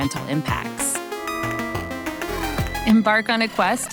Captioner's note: sign chiming